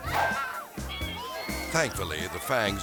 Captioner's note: mysterious music; people screaming